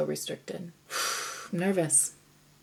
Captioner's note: exhales forcefully